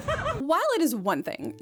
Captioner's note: laughing